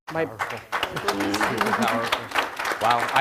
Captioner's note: audience applauding